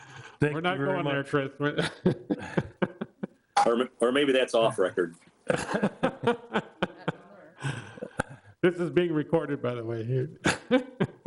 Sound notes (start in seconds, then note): 1.7 laughing; 5.5 laughing